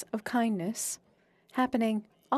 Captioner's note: speaking French